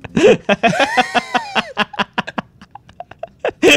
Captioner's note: laughing